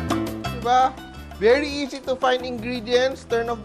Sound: sizzle

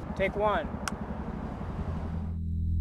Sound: clap of film slate

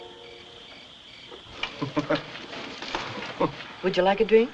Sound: Harry Chuckling

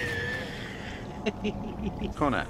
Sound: laughing

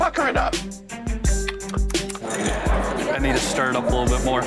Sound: laughs; smacks lips

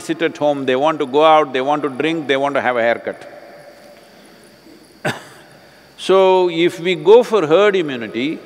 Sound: laughs

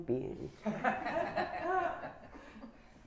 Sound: laughter

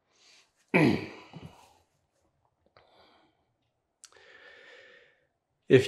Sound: clears his throat

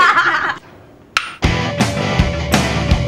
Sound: drew barrymore laughs; metal clinks; upbeat music

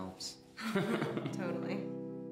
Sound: laughing

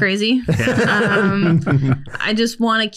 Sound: laughs

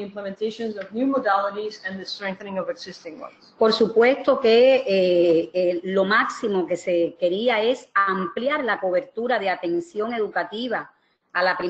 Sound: speaking another language

